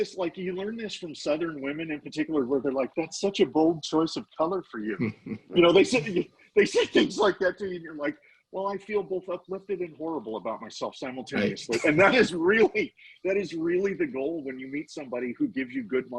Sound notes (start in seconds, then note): 4.8 laughing; 11.4 laughing